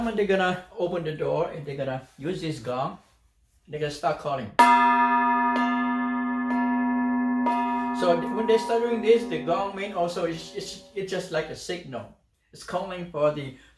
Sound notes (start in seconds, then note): 4.6 sound of gong